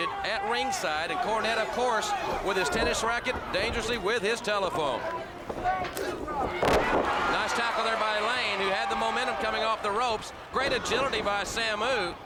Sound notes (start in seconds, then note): 5.5 crowd cheering